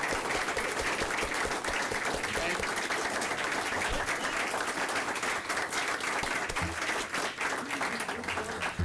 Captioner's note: applause